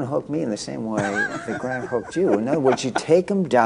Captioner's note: laughter